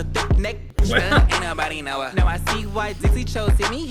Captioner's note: laughs